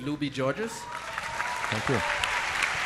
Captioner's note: applause